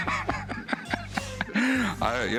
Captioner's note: laughter